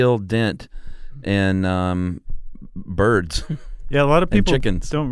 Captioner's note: laughs